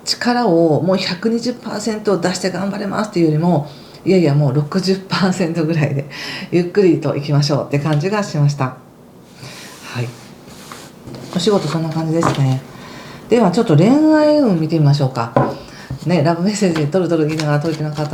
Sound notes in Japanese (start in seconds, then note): 10.0 鼻息